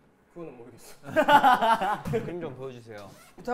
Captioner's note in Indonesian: Hahahahahahahaha